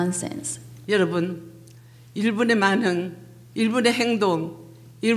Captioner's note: speaking foreign language